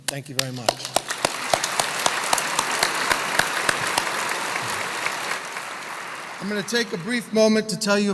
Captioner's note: applause